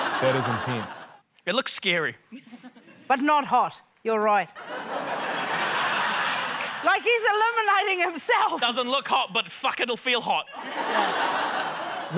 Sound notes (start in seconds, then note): 4.6 laughter; 10.5 laughter